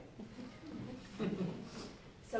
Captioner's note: laughter